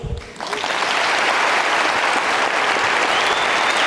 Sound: audience clapping

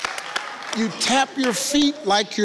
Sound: claps

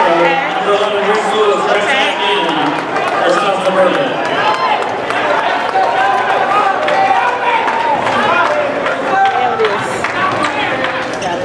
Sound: indistinct crowd noise

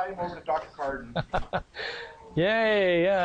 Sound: laughs

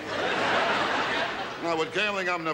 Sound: audience laughs

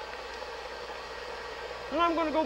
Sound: mixer whirring faster

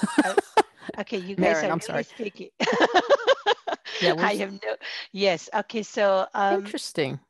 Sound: laughter

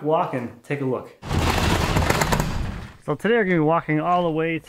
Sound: garage door creaking

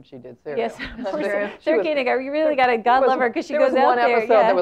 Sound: laugh

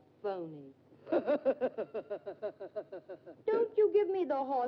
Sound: Sneed laughs

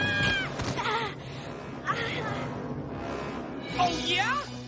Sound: groaning

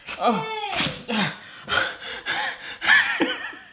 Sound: pants

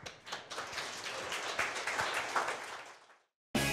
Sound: clapping

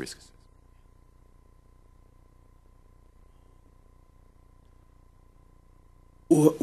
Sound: no speaking

